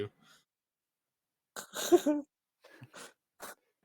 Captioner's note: laughs